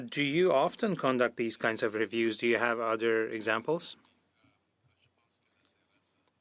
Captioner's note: speaking French